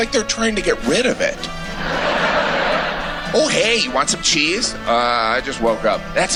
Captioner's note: laughter